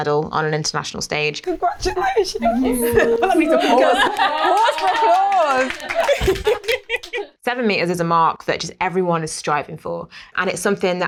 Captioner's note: applause